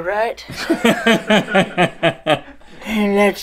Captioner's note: laughter